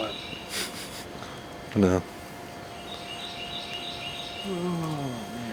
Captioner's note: laughs